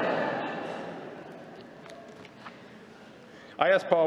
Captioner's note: laughter